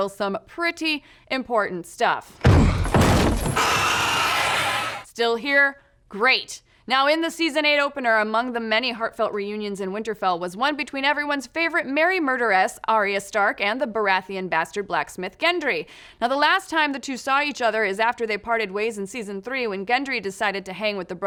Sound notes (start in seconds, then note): 3.4 skeleton gasping; 3.5 grunt